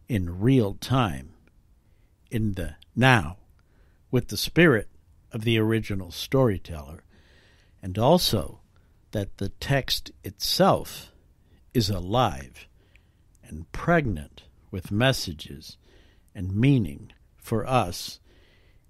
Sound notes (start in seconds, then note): none